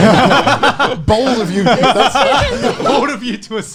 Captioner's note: laughing